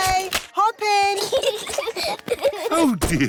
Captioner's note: peppa and george giggling